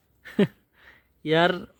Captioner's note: hahah